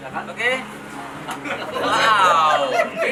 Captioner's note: laughter